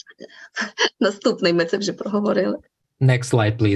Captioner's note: foreign Language Spoken